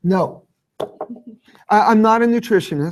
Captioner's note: chuckling